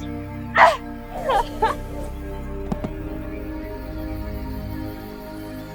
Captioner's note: rope whizzing; dramatic orchestral music